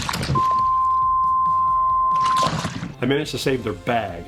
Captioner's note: beep sound